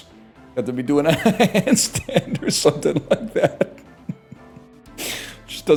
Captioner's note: laughs